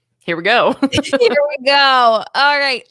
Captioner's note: laughs